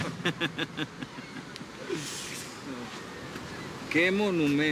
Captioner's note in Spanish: Risas